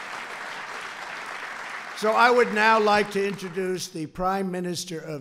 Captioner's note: applause